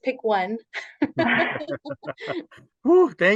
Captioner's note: all laugh